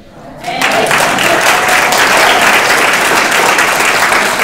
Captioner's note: audience applauding